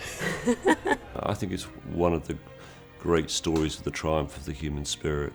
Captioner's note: laughter